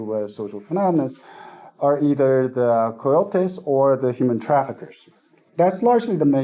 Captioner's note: Spanish